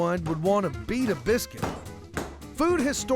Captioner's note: pounding sound